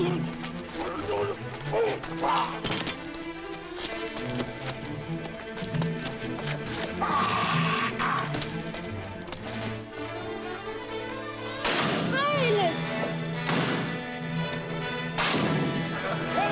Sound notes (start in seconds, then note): 0.3 man grunting; 7.3 man groaning; 11.6 rock crashes